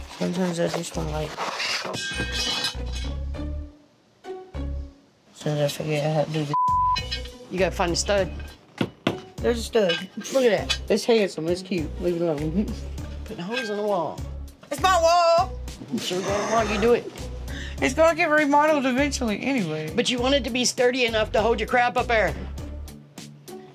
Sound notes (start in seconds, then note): 1.8 clanging; 8.2 banging